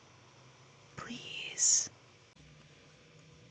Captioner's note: whispered